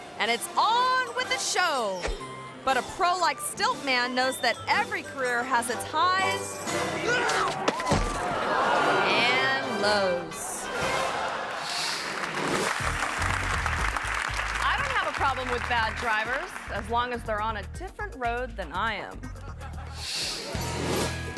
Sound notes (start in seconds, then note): 7.2 crowd gasping; 7.4 stilt man thudding; 10.9 audience laughing; 12.5 audience applauding; 19.2 audience laughing; 21.2 upbeat music